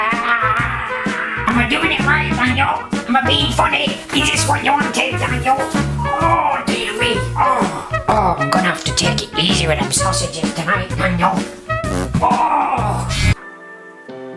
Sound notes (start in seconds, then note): 0.3 grunting; 12.1 grunts; 13.0 buzzes; 14.2 light music